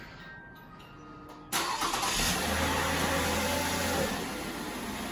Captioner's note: car engine starts